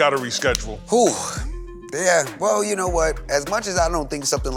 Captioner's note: sighs